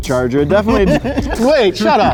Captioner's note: laughing